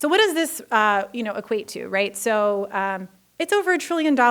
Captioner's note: none